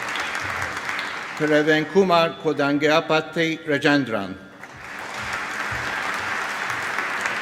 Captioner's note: applause